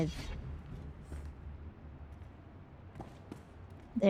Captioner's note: footsteps